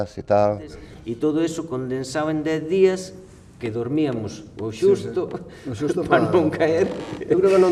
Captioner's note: laughs